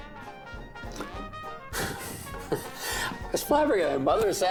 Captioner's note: laughing